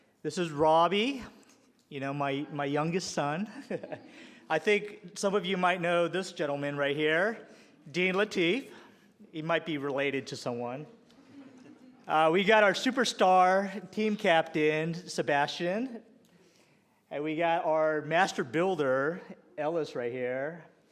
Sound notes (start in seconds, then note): 11.5 scattered laughter